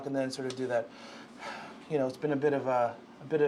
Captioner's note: heavy Exhaling